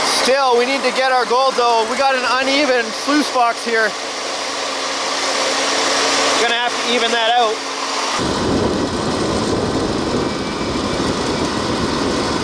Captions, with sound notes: Still we need to get our gold though. We got an uneven sluice box here. (machine engine roaring) Gonna have to even that out. (wind blowing)